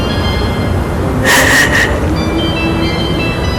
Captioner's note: cries